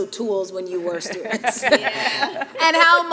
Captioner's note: people giggling